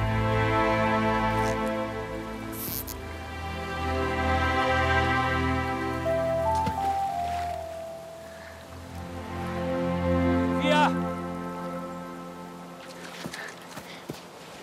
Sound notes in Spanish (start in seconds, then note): 6.4 Sonido al caer la botella al agua